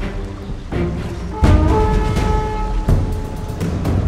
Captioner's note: war horns blowing